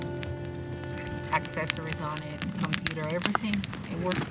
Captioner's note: background conversation about gear